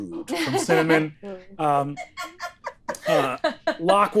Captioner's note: laughing